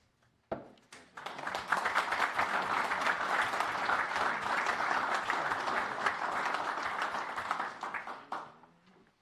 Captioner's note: applause